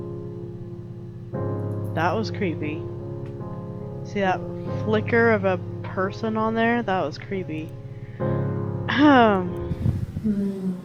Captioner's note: clears throat